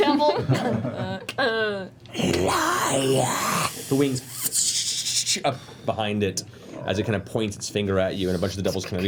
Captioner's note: angry fluttering noise